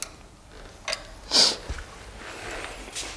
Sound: sniffles

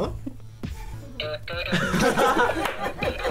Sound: sniffs; laughs

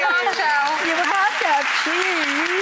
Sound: audience claps

